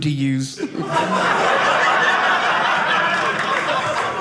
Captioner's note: audience laughing